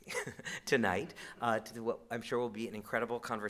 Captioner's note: chuckles